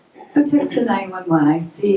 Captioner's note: voiceover